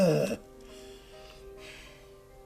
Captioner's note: sighing